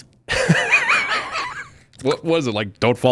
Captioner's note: laughs